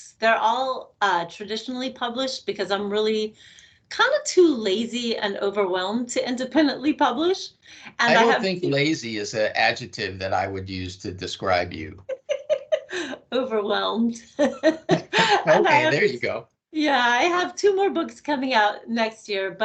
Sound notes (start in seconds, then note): 14.1 laughing